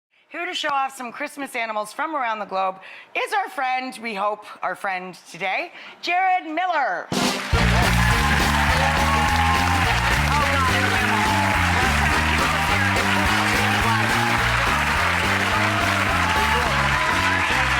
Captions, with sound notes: Here to show off some Christmas animals from around the globe, is our friend, we hope our friend today, Jarod Miller! (upbeat music) (audience applauding)